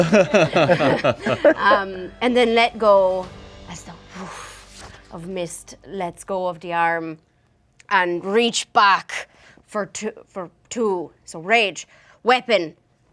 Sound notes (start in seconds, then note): 0.0 group laughing; 4.2 air whooshes